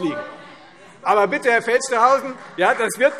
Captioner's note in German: Beifall Freie Demokraten - Zurufe